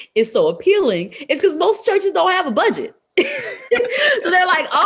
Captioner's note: laughs